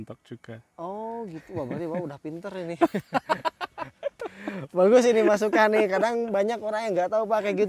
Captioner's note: laughs